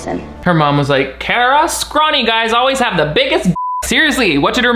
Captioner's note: beep